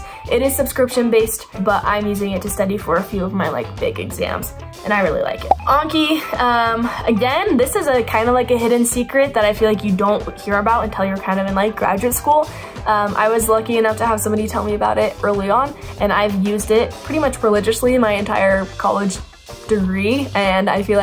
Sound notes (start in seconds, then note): 5.4 arrow pops